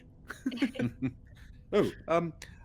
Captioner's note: game Master laughs; Calla laughs; laughs